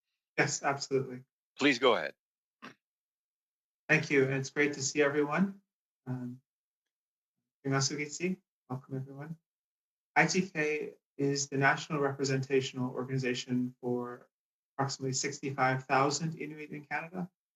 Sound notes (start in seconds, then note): 12.7 speaking Indigenous Language